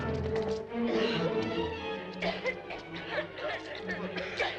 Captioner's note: people coughing